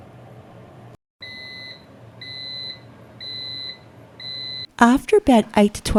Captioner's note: dehydrator beeps